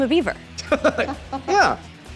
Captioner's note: chuckles